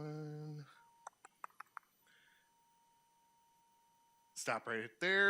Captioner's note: tongue clicking